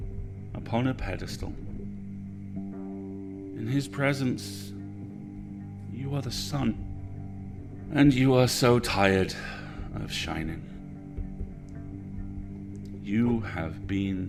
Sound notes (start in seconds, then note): 9.3 sighs